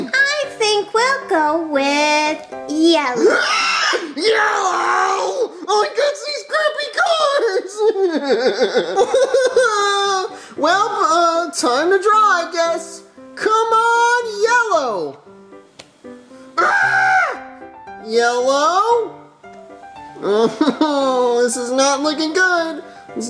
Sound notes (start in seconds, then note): 3.2 shrieks; 8.2 cries; 16.6 screams